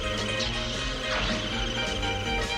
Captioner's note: swoosh